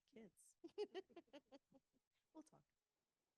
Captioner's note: laughs